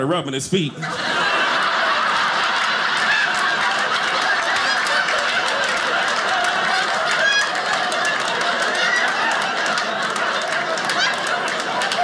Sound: audience laughing

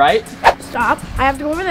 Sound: air whistling

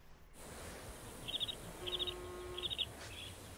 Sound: buzzing

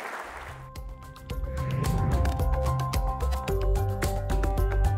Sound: applause; pleasant digital tones

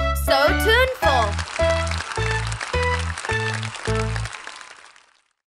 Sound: audience applauding

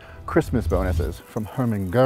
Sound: coins clinking

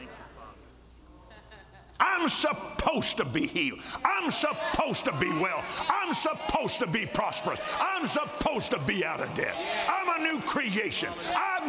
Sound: laughter

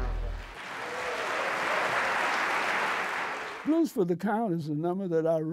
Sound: applause

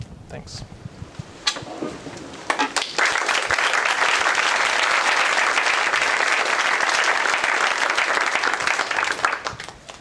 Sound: applause

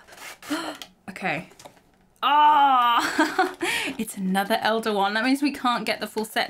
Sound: exclaims

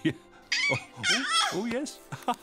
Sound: baby cooing happily

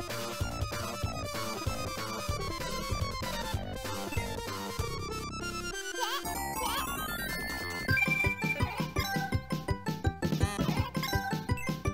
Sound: game sounds

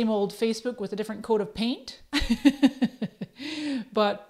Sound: laughs

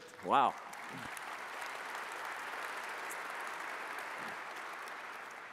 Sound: audience applauds

